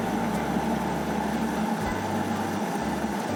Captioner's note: food processor whirring